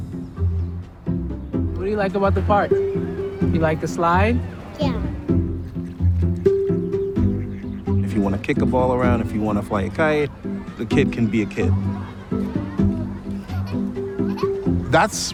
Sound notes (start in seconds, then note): 0.2 gentle rhythmic music; 5.6 ducks quacking; 5.6 gentle rhythmic music; 12.2 gentle rhythmic music; 14.4 kid laughing